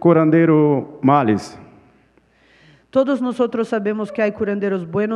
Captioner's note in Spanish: Ponente habla en portugués